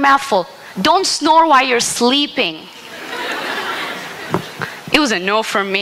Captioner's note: laughter